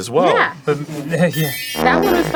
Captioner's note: magical wand sparkle